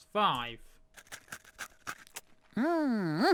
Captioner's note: eating sound